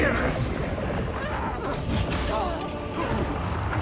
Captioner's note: grunting